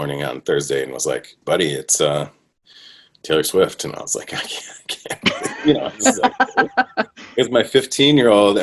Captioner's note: laughter